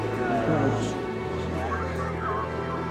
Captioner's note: distorted voices